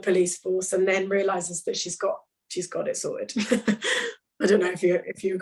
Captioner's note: laughs